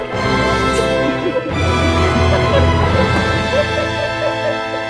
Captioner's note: laughing